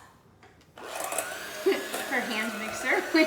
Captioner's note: mixer whirls